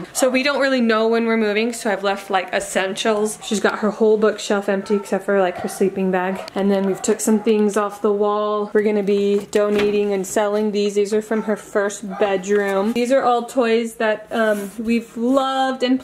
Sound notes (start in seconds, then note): none